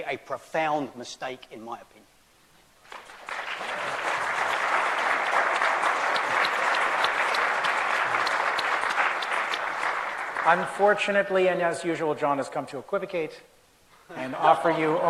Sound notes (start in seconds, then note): 2.8 applause